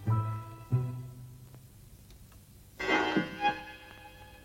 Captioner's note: clock chimes; slow suspenseful music